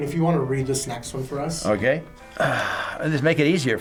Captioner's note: sighs